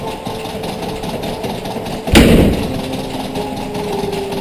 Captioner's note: door slamming